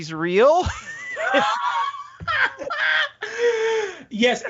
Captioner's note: all laughing